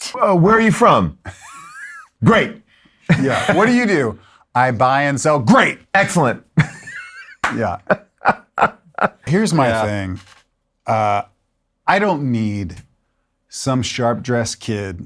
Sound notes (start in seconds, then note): 1.2 laughs; 6.6 laughs